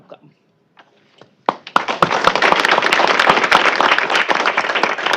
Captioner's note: applause